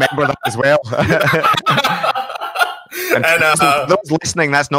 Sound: laughing

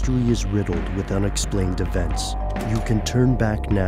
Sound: doorbell rings

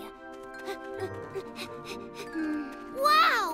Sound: panting

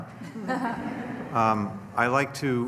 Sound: laughter

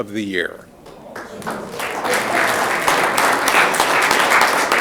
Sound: audience clapping

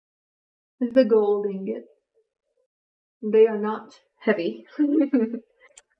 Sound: laughs

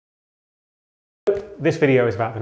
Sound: logo accompanied by silence

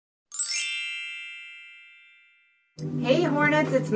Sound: bells chime

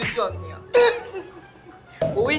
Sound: giggle

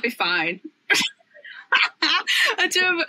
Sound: laughs

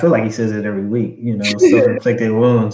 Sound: laugh

